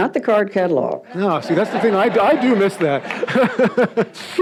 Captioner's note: audience laughs